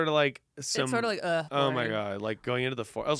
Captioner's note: groans